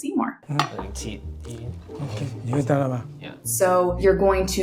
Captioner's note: speaking foreign language